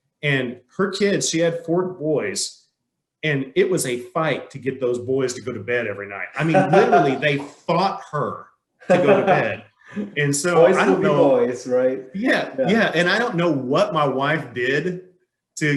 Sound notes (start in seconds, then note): 6.3 man laughing